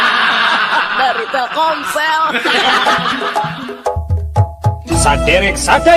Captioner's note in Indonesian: tertawa